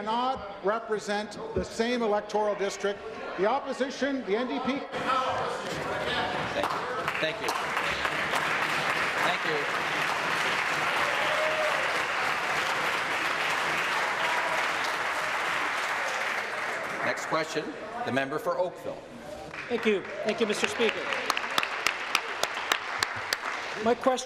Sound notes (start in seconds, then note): 10.1 voice trailing; 11.2 applause